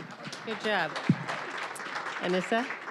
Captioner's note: applause